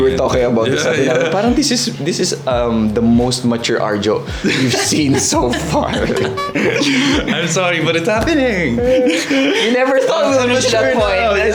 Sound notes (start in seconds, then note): 6.2 laughs; 8.9 laughs